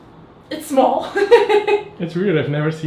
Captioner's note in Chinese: 哈哈哈哈哈哈